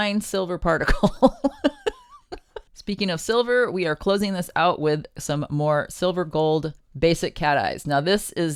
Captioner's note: laughing